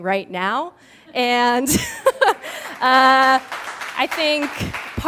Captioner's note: laughs; applause